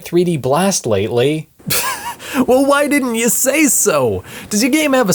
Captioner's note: scoffs